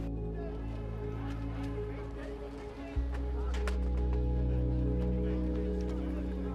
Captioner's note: muffled chatter; traffic hums